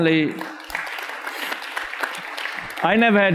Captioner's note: audience applauds